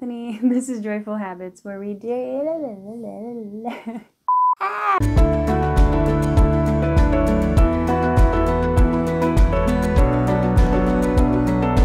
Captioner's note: laughs